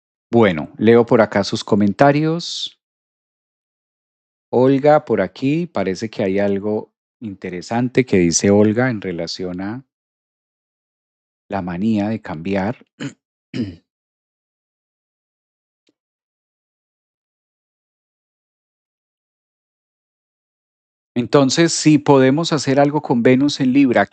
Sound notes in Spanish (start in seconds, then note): 13.5 carraspeo